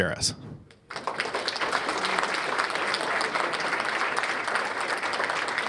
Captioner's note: applause